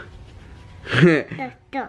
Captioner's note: he laughs